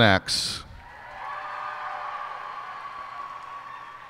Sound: cheers and applause

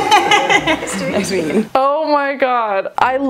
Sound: laughing

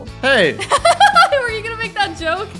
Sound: laughs

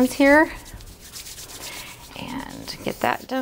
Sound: hands rubbing

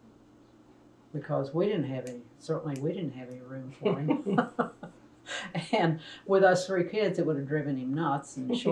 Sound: laughs

